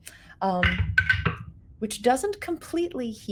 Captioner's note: dice rattling